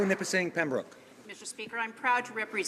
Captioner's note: some Applause